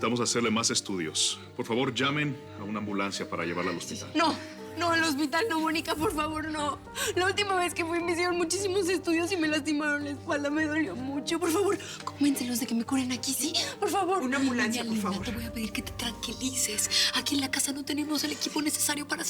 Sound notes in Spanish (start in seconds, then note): 4.8 sollozos